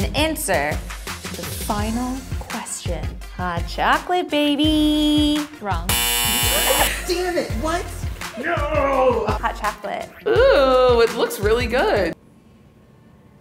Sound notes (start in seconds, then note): 5.9 buzzer buzzes